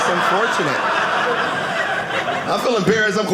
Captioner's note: audience laughing